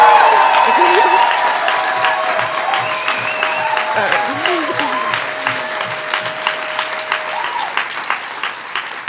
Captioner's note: audience applause